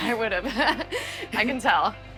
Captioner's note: laughs